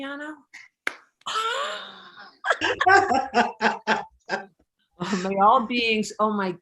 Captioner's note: laughing